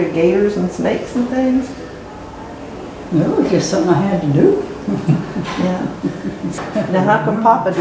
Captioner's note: laugh